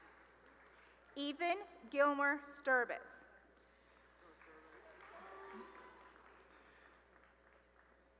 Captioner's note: applause; cheering and applause